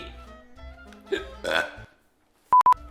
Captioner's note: hiccup and burp